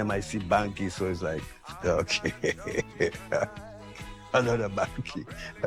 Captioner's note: laughs